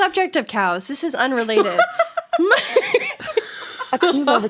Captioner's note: laughing